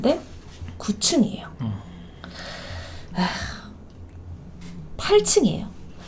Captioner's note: sigh